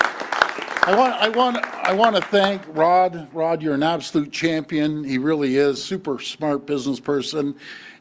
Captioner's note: applause